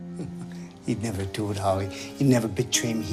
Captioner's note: chuckles